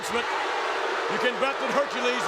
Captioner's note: crowd boos